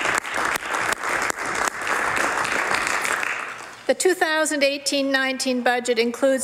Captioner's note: some Applause